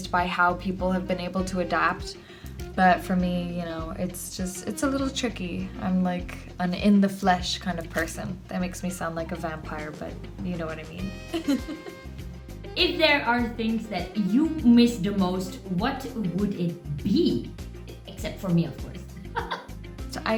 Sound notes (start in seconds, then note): 11.2 giggles; 19.2 chuckles